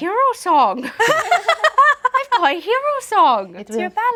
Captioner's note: laughing